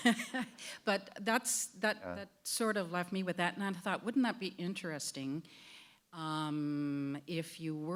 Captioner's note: chuckle